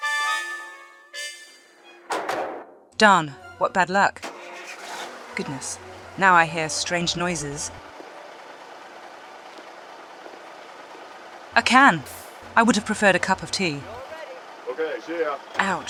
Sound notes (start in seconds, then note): 8.9 sound of the truck ♫